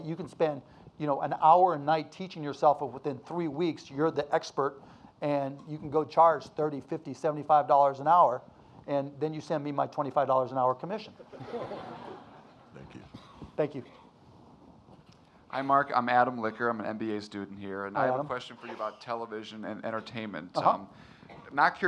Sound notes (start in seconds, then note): 11.2 audience laughing